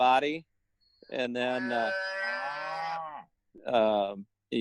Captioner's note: mooing